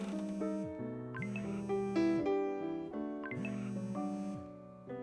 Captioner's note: phone vibrating